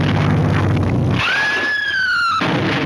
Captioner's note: car crashes; woman screams